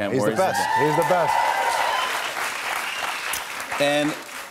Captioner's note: cheers and applause